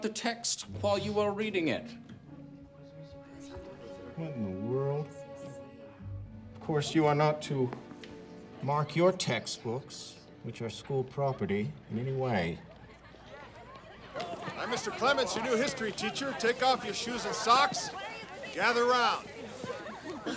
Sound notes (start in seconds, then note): 13.3 students chattering; 20.2 students chattering excitedly